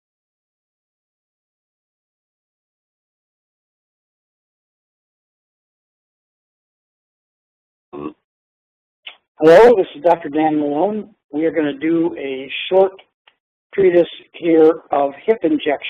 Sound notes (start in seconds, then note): 8.2 male Voice